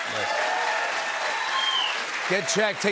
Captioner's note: cheers and applause